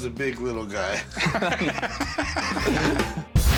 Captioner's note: laughter